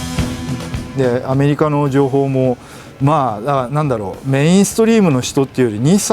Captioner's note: speaking in foreign language